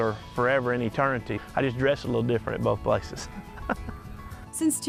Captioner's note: haha